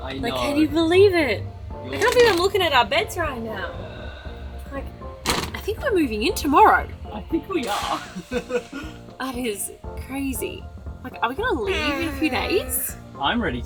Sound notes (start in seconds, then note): 8.0 chuckles